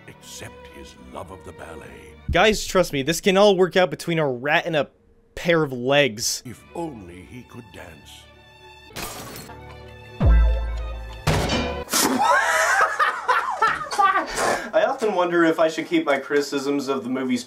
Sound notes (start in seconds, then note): 9.1 crash; 11.3 crash again; 11.9 spit